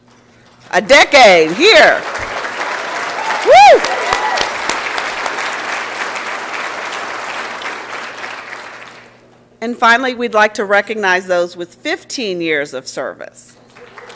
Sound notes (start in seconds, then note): 2.9 applause and Cheering; 13.7 applause and Cheering